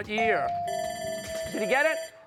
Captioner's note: timer bell dings; buzzer bell dings